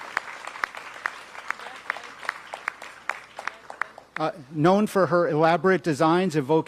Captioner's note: applause